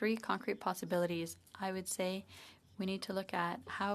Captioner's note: speaking French